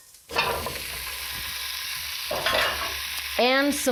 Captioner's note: pan sizzling